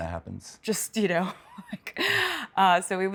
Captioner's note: laughs